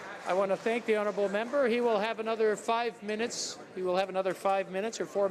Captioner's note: some Applause